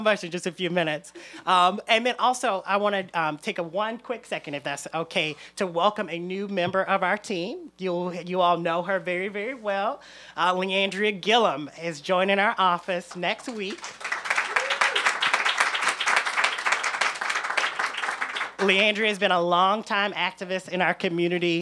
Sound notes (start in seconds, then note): 16.1 applause